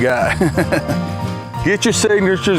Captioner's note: laughing